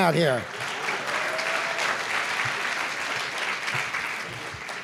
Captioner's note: applause